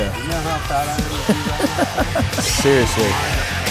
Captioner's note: laughs